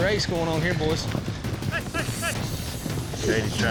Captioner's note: shouting, hoofbeats